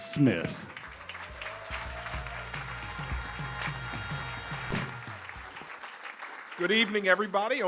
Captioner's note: applause